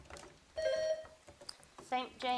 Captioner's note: bell dings